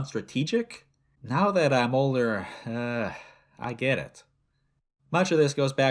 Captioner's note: inhale